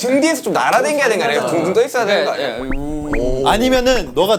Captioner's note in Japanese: うぅ～ん うぅ～ん